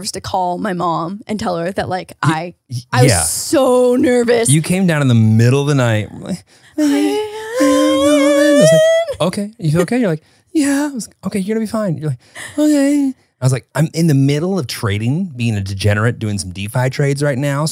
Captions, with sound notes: to call my mom and tell her that I... I was so nervous. - You came down in the middle of the night. (both whining) I was like, "Okay, you okay?" You're like, "Yeah." - "Okay, you're gonna be fine." You're like, "Okay." I was like, "I'm in the middle of trading, being a degenerate, doing some Defy trades right now.